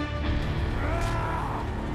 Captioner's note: yells